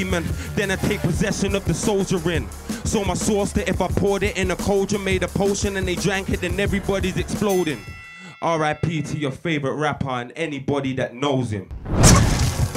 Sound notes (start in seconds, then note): 6.4 bell rings